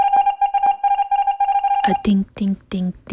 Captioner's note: alarm ringing